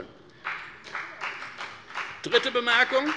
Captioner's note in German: Beifall bei der FDP